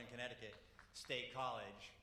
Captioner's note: applause